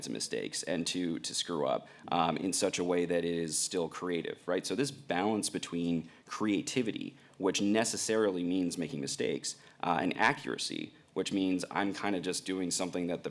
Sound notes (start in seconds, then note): none